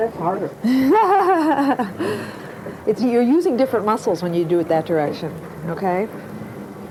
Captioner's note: laughing